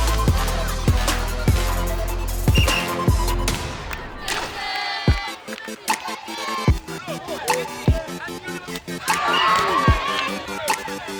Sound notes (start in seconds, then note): 3.8 cheering